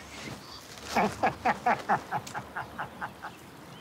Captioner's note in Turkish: Gülme sesi